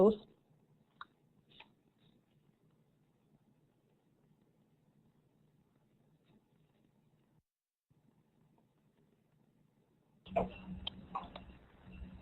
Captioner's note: silence